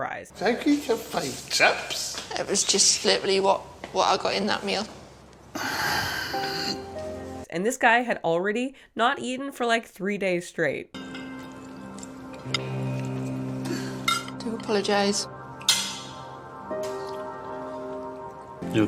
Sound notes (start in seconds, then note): 5.5 man sighing; 11.0 dramatic music